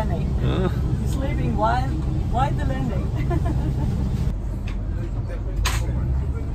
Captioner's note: laughs